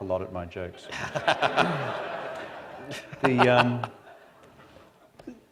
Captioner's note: laughter